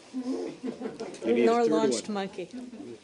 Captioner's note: laughter